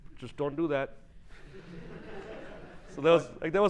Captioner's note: laughing